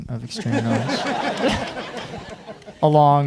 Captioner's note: audience laughing